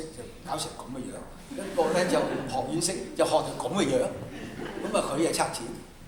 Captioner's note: laughter